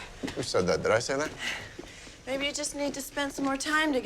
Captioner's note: none